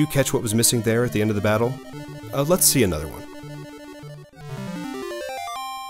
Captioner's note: chime; chime